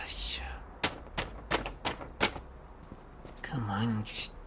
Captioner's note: jamming paper sounds